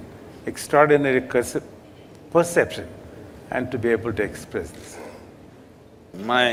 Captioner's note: Sadhguru Laughs